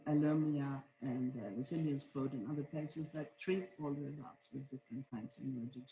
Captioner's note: faintly speaking